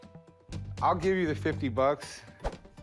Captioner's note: none